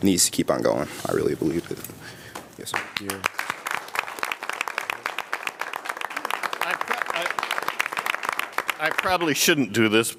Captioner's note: applause